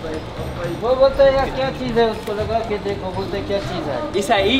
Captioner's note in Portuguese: Falas em árabe